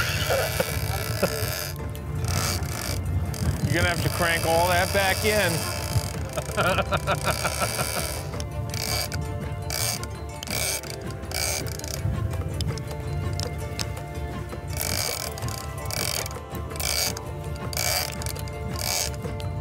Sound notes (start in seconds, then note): 6.3 laughs